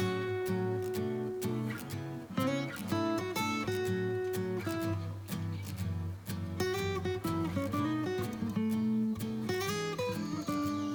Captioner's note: laughs